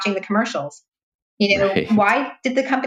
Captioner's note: laughs